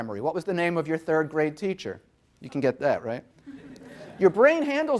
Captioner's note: audience laughing